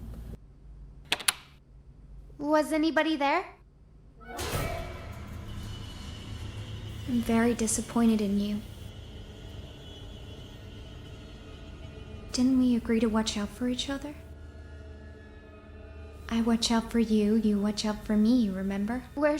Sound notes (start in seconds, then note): 1.1 lock clicks; 4.3 tense music